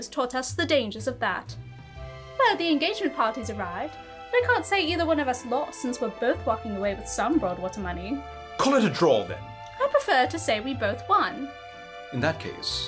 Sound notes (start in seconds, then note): none